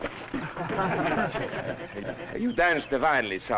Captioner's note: crowd laughing